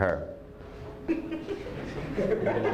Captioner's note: laughter